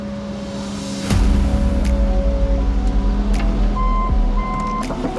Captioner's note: vehicle whirring; upbeat music; vehicle beeping; machinery rattling; upbeat music